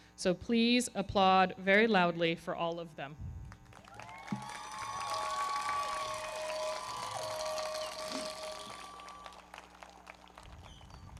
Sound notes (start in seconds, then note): 3.5 everybody clapping; 3.8 audience cheering